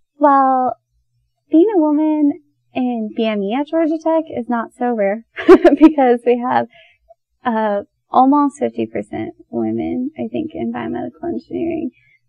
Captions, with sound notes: Well Being a woman and BME at Georgia Tech is not so rare [laughs] Because we have uh almost 50 percent women I think in Biomedical engineering